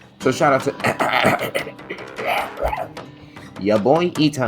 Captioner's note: very normal throat clearing noises